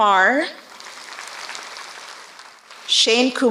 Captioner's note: applause